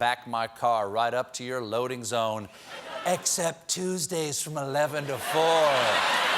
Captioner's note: whispers